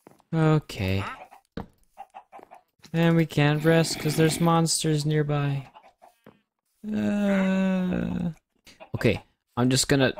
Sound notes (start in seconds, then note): 6.9 whimpers